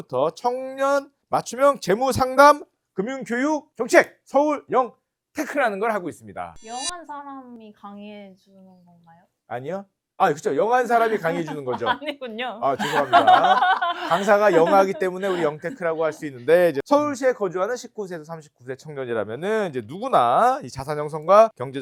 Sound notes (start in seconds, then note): 6.6 sharp sound effect; 12.7 laughter